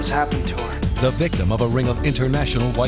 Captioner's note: voiceover